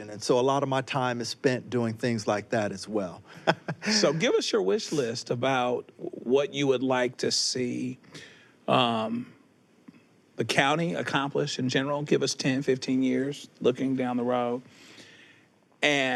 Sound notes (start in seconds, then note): 3.3 chuckles